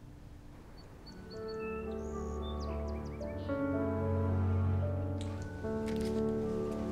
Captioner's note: light music; birds chirping